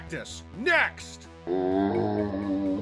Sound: zombie sound

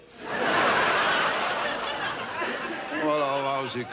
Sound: audience laughs

